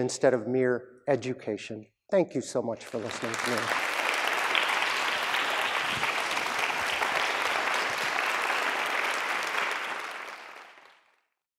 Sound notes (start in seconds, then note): 9.5 clapping